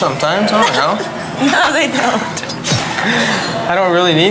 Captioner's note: laughs